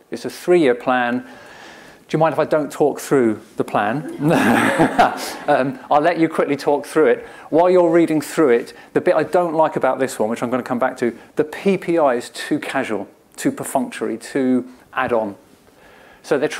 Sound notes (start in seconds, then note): 4.0 laughter